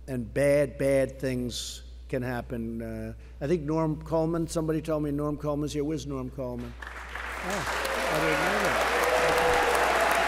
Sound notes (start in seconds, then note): 6.6 applause